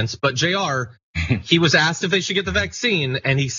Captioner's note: laugh